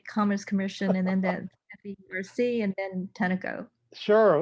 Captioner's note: laughing